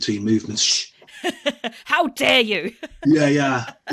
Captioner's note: laughs